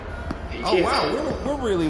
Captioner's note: sarcastically